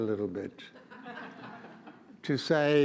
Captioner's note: audience laughs